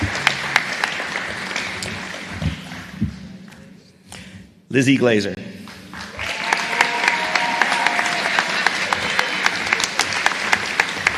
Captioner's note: applause